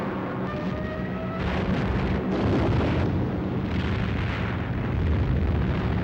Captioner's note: bombs exploding; siren wailing